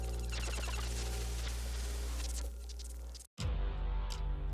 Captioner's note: Static